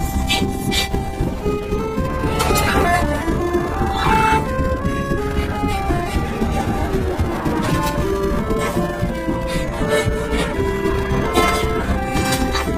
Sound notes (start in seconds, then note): 3.6 groans, screams through teeth